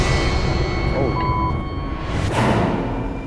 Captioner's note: dramatic music; beep; eerie music